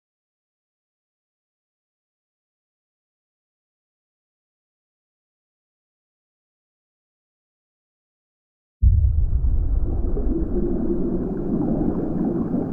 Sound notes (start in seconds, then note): 8.9 water gurgling